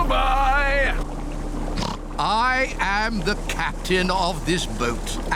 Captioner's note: oinks